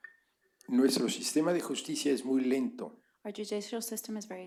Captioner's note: spanish